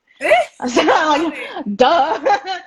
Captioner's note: both laugh